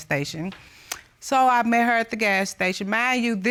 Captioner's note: smacks lips